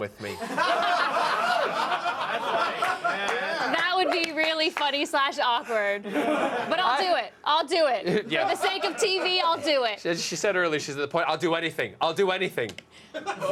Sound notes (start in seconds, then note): 8.0 laughter